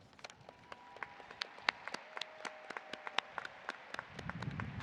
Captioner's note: audience applauding